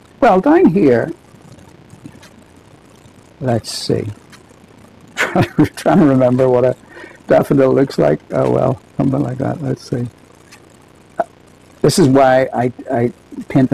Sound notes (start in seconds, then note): 5.2 laughs